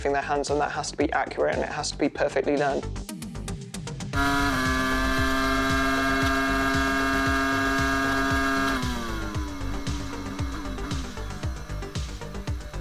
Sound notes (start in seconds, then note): 4.1 car engine roaring; 4.2 upbeat music